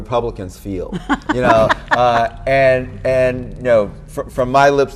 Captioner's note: laughing